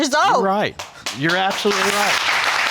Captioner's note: audience applauding